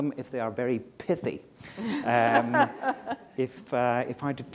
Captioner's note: laughter